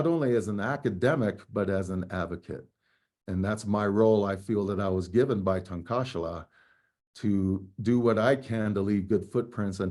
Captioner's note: speaking native language